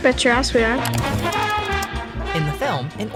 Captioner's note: keyboard clicking